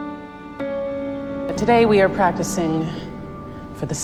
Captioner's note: voiceover